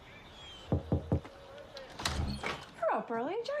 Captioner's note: knocking